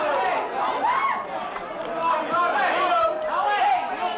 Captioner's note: shouting